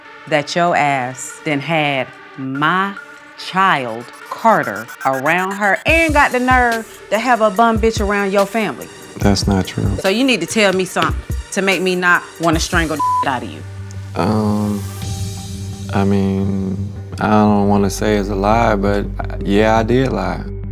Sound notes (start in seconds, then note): 12.8 beep